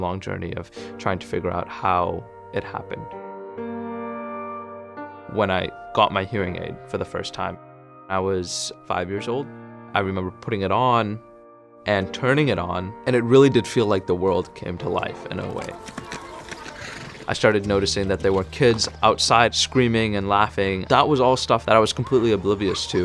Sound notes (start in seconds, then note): 3.0 delicate piano; 15.5 galloping horse